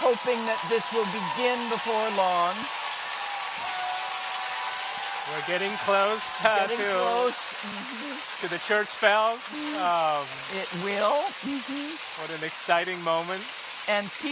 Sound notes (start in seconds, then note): 2.8 clappers clacking; 2.8 crowd cheering